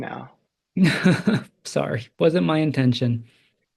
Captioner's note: laugh